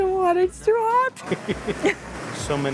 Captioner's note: laughs